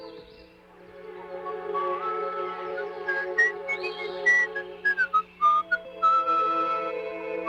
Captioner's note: whistling